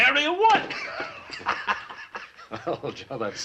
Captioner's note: laughs